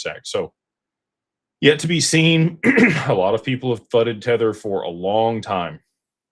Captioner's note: clears throat